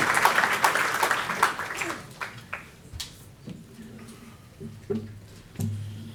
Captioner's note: applause